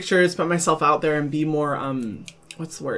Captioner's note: snapping fingers